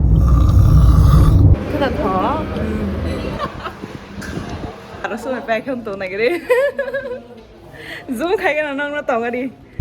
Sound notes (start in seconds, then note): 0.2 snore